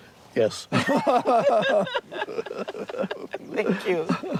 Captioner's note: both laugh